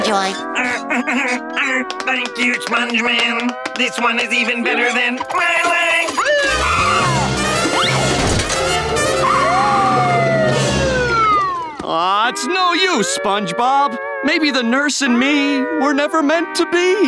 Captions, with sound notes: [laughing] Thank you, sponge man. This one is even better than my leg! [siren wailing] [siren wailing] Aww, it's no use, SpongeBob, maybe the nurse and me, were never meant to be.